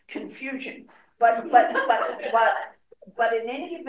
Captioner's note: audience laughing